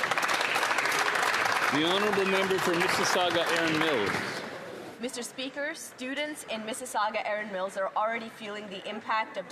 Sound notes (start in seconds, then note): 5.1 applause